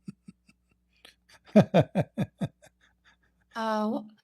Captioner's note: Ketawa